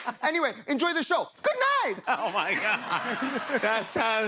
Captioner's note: laughing